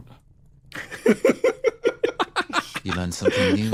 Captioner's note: laughs